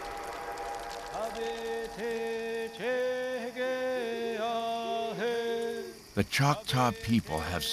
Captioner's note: man chanting in Choctaw